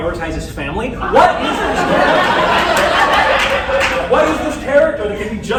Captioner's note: laughter